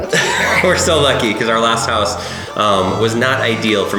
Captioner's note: laughs